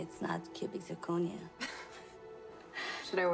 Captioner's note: laughs